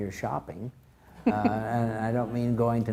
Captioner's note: crowd laughs